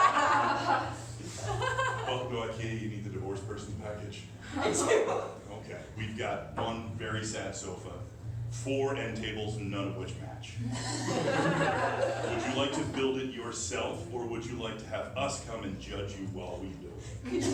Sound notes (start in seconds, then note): 4.8 sobbing